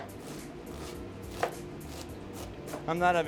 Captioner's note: onions crunching